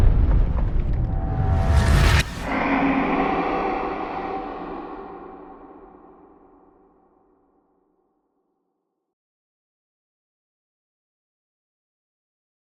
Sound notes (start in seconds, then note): 2.5 animal roars